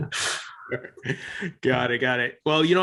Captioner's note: both laughing